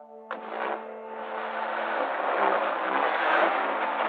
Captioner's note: engines revving